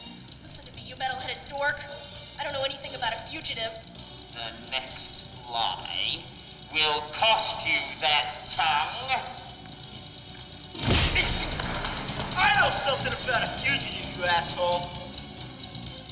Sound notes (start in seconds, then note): 10.8 fist punching